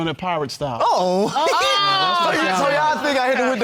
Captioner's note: laughs